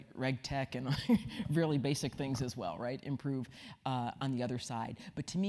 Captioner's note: laugh